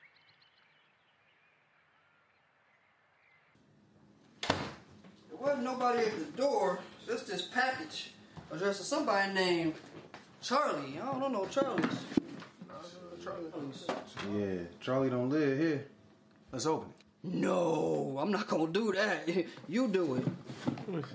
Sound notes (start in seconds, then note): 4.4 door closes